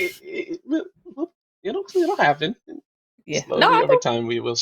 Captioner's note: laughter